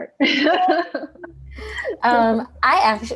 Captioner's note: laughter